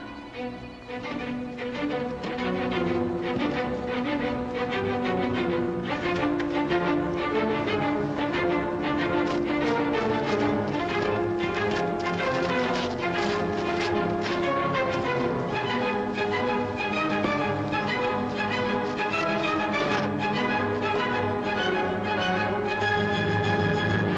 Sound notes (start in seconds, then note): 0.2 frenzied music; 9.2 tearing sounds; 15.0 frenzied music